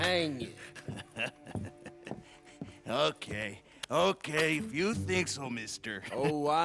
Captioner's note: laughs